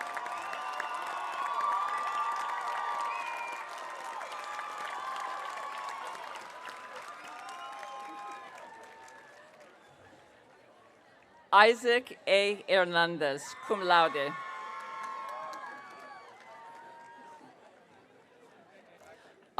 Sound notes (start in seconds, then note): 13.5 audience cheering